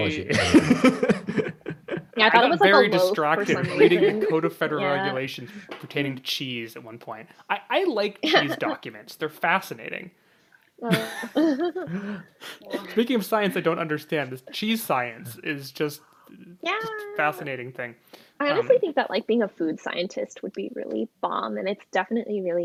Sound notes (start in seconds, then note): 0.1 laughs; 8.2 laughs; 10.8 laughs